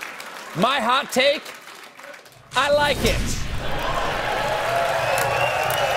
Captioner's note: applause; cheers and applause